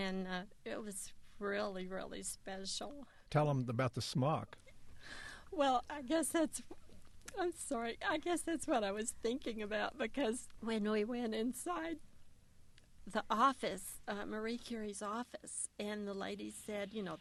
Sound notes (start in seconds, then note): 6.2 voice breaking up